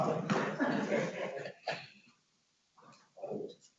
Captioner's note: laughs